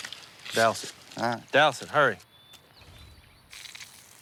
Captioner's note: none